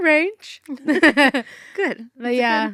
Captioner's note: chuckle